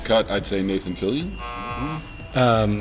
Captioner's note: buzzer